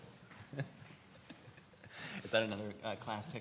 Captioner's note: laughing